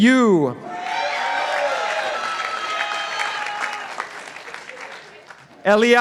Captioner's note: participants applauding